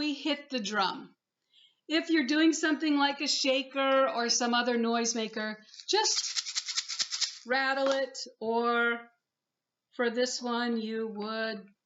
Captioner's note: rattles